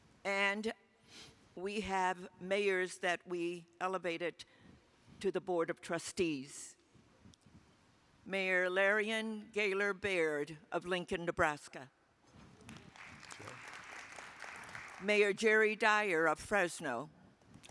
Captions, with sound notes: - And we have mayors that we elevated to the board of trustees. Mayor Leirion Gaylor Baird of Lincoln, Nebraska. (attendees applauding) - Yay. - Mayor Jerry Dyer of Fresno.